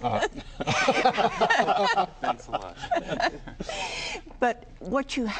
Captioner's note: laughter